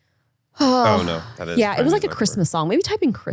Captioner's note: sighs